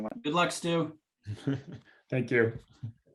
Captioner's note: laughs